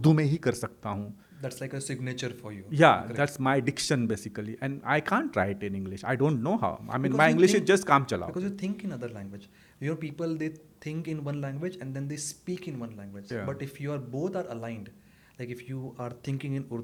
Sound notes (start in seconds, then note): 0.0 hindi; 7.6 hindi